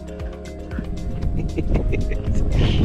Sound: laughs

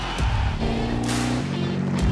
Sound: applause; car speeding; jetboat sounds

